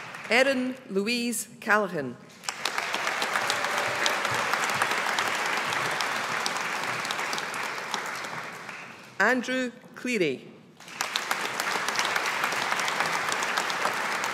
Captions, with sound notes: Erin Louise Callaghan. (AUDIENCE APPLAUDING) Andrew Cleary. (AUDIENCE APPLAUDING)